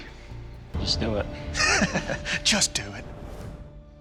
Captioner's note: laughs